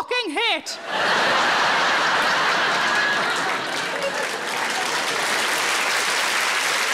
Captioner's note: audience laughing and applauding